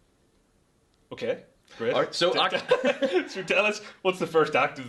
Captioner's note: laughter